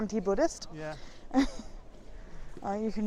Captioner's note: laughs